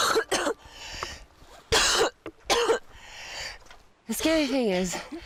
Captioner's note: coughing